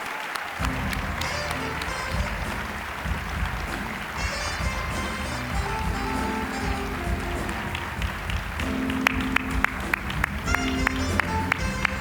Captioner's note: applause; smooth jazz music